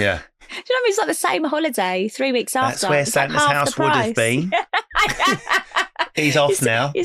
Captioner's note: laughing